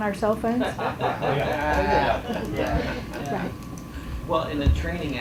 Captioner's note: chuckles